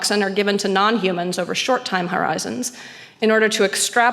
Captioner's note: none